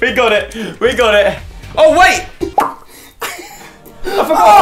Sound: pop

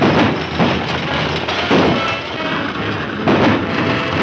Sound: gunshots

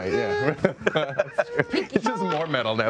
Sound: laughing

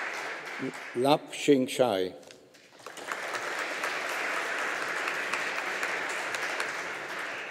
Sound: audience applauding

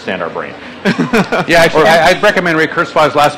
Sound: laughing

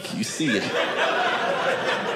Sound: audience laughing

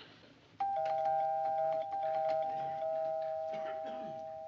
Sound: door bell ringing persistently

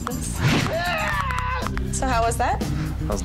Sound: bones cracking

